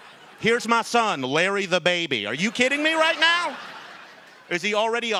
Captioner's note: laughter